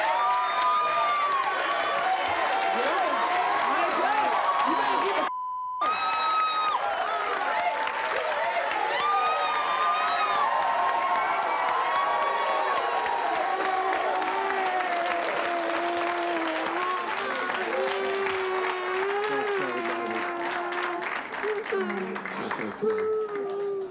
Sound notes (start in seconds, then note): 0.0 cheering and yelling; 3.1 audience shouts and hollers; 13.5 whimpering; 22.8 crying